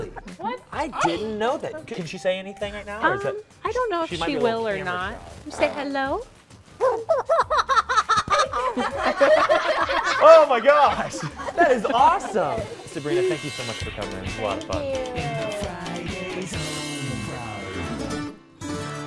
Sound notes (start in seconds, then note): 11.6 laughter